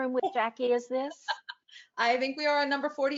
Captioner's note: chuckles